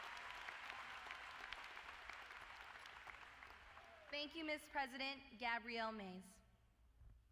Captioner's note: applause